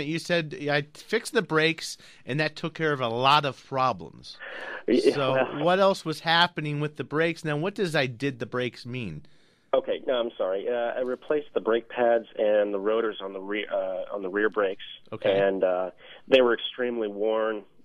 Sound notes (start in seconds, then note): 4.6 laughs